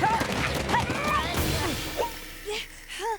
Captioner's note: crash!; panting